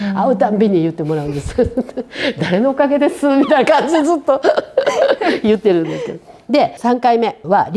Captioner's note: laughs